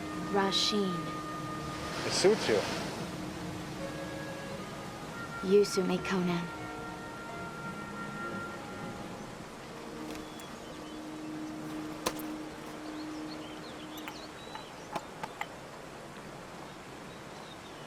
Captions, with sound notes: - Rah-Sheen. - It suits you. - You suit me, Conan. (water running) (birds chirping) (tapping)